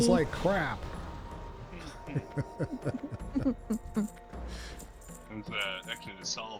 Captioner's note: laughter